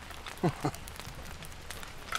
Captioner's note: laughs